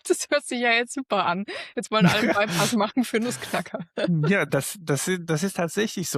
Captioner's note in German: gelächter